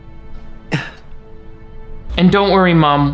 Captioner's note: woman chuckles